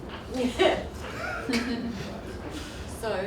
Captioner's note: laughter